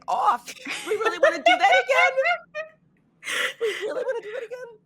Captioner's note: laughing